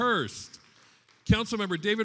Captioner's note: attendees applauding